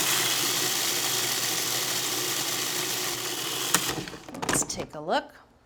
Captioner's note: grinder whirring